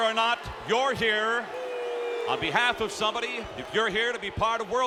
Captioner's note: audience booing